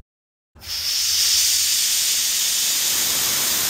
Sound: air swooshing

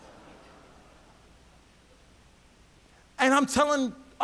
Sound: audience laughs

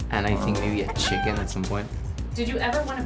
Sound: chicken clucks

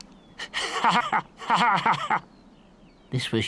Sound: laughing

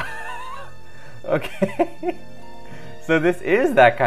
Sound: laughs

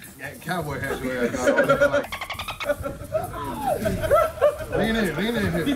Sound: laugh

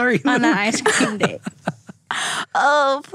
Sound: laughter

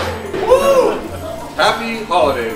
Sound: pop!

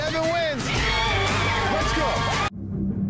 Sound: screaming

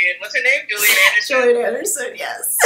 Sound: laughs

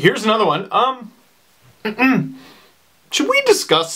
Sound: ahem

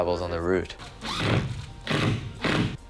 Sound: drilling

